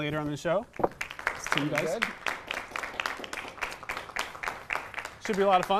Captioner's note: applause